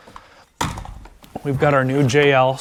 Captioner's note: speaker thumping